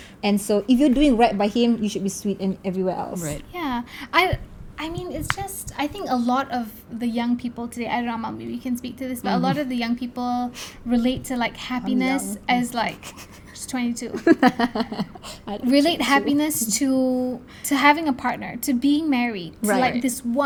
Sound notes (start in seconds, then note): 14.8 laugh